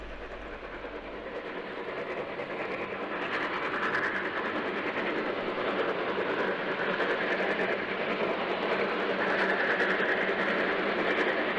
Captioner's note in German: Dampflok-Sound der Baureihe 44